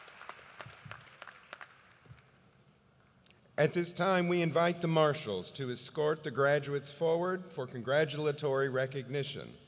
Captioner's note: cheers and applause